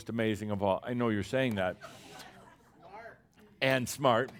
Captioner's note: some chuckles